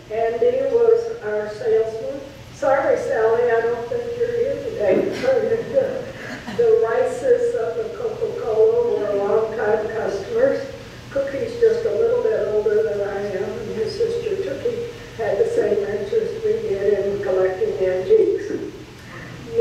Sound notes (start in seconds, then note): 5.4 laughs